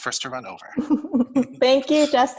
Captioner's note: chuckles